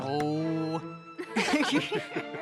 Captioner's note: all laugh